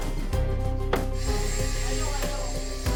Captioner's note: whirring